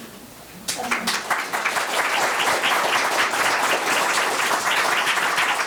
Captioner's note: board members clapping